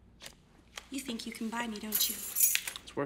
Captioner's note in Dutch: sleutels rinkelen